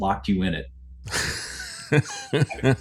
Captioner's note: laughing